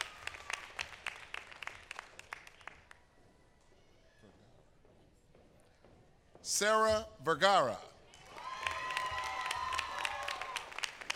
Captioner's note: applause